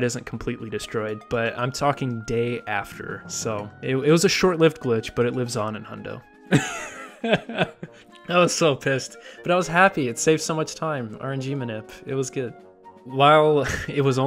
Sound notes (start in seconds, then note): 6.6 laughs